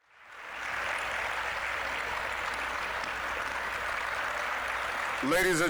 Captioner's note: applause